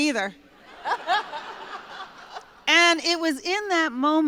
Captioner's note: laughter